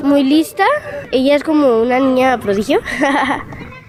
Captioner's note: laughing